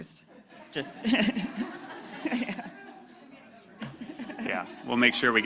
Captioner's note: laughter